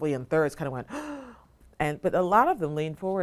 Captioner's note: gasps